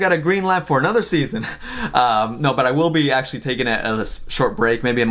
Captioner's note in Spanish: risas